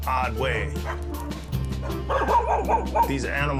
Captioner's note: dogs barking